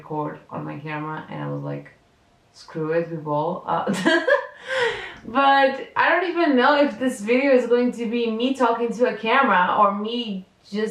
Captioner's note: laughs